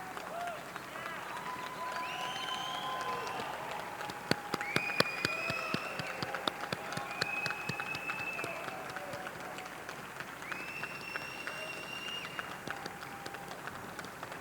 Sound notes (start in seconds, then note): 0.1 audience cheering; 4.0 audience clapping